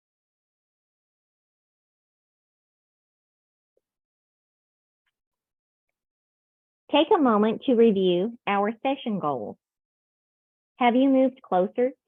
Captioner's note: silence